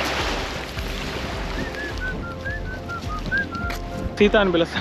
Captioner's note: whistles